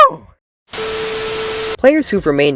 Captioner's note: tv static